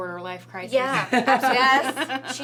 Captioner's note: laughs